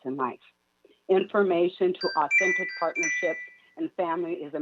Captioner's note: chime